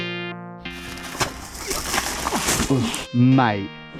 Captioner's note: water splashing